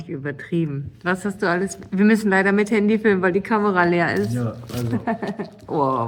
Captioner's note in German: gelächter